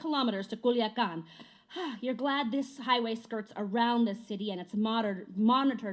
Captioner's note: sighs